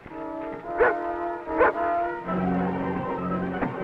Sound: dog barks

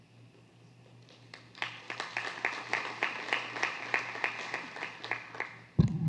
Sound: applause

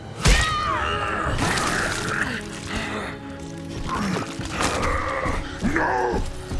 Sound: groaning; grunting

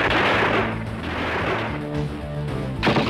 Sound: gunshots

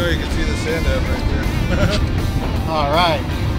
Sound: laughs

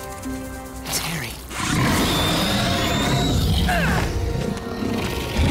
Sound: growling

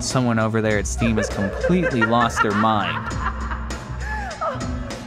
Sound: creepy laughter; continued laughter

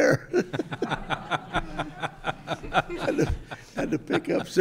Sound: group laughing

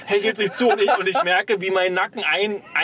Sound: laughs

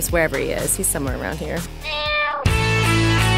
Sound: meowing; holiday music

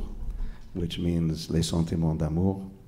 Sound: speaking foreign language

